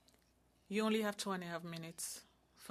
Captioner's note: speaking French